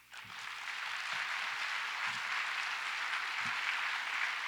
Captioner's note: audience applauds